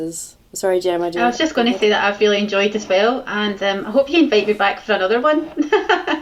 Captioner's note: laughs